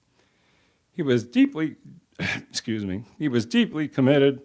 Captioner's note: voice cracks